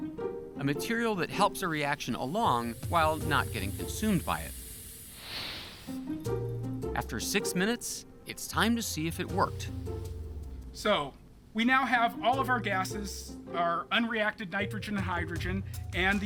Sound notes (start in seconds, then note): none